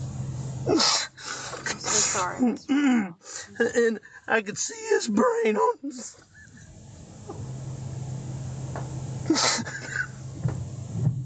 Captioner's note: crying